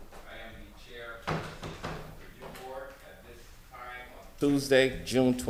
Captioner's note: gavel sounding